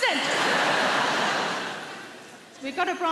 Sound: audience laughs

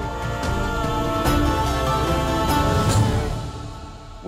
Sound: emotional vocalising

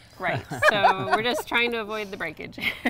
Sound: laughs

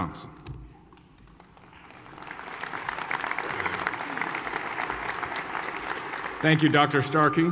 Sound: applause

